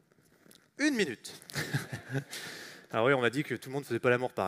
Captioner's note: chuckles